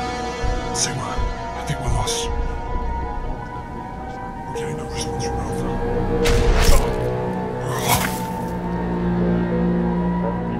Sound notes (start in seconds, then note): 6.3 gun firing